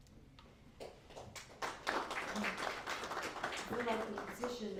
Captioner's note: applause